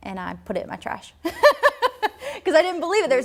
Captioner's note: laughs